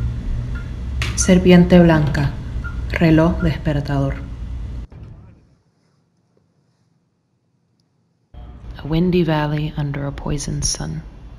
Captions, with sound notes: [SPANISH] [sounds stop] A windy valley, under a poisoned sun.